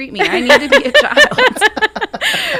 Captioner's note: laughing